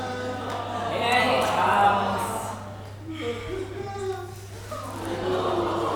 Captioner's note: loud sobbing offstage